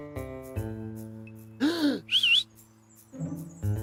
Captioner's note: gasps and whistles